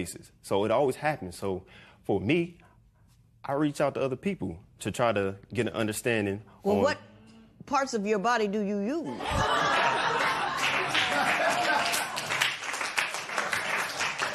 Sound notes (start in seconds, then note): 9.0 laughter; 11.7 applause